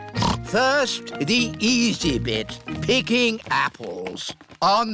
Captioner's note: snorts